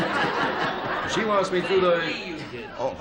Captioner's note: laughter